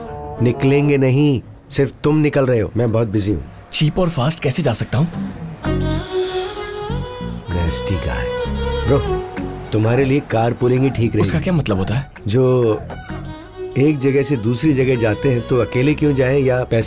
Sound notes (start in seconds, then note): 6.0 exhales